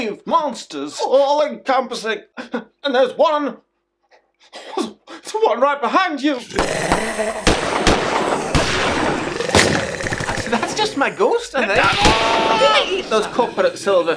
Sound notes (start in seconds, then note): 6.4 roaring; 8.9 gunshots